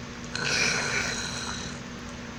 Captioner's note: static Crackling